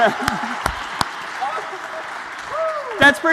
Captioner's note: applause